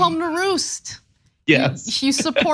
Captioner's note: laugh